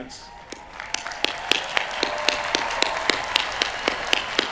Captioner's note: cheering